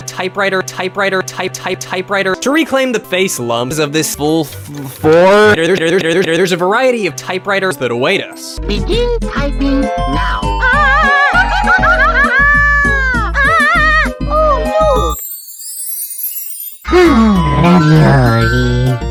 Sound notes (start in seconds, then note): 10.1 panic Noises